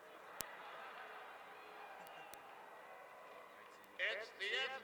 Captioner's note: crowd noise